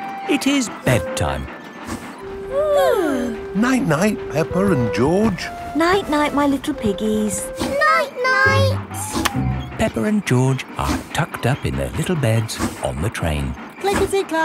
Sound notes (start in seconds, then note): 2.4 both yawning